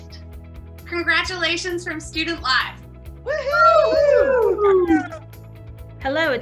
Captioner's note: group cheering